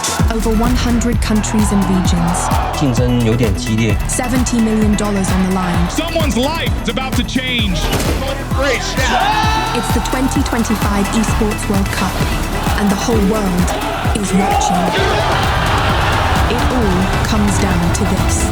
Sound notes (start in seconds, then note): 9.0 players cheering; 15.0 crowd cheering